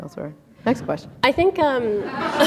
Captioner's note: laughter